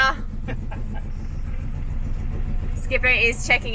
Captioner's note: laughing